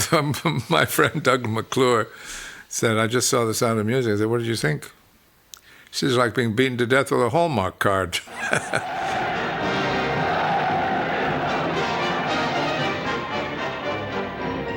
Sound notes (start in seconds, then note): 0.2 chuckles; 8.2 laughs; 8.2 crowd cheering